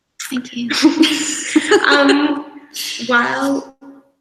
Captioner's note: both laugh